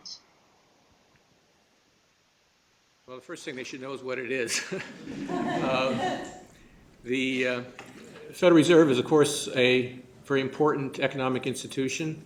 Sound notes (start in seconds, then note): 7.9 laughter